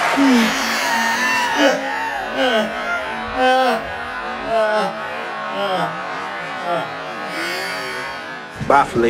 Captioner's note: creepy Carson laugh